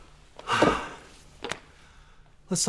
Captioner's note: sighing